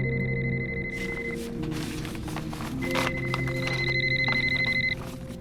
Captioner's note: paper rustling